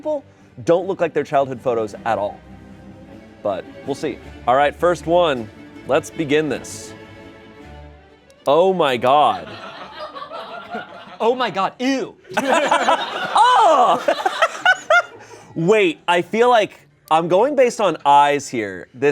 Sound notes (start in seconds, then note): 9.4 laughter